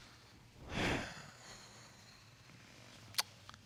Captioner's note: sighs